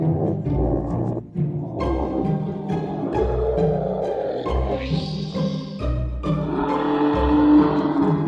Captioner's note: creepy Zombie Noises